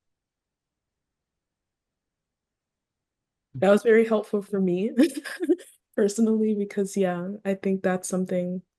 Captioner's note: laughs